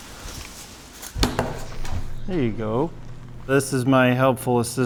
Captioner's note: wooden slapping